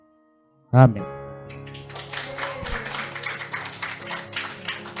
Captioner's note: applause